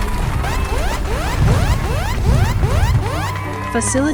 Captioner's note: emergency siren wailing